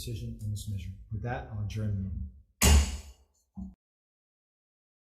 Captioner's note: gavel thuds